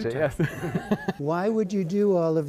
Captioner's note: laughter